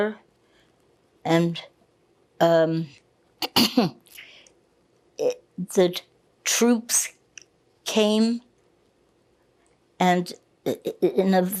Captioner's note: coughing